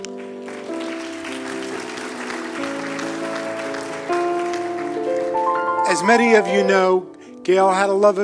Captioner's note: applause